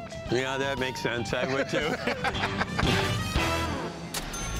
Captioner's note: laughter; laughs